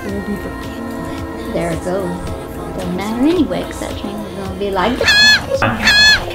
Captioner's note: noot